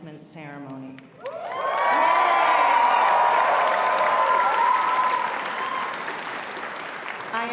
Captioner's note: applause